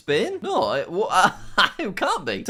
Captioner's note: laughing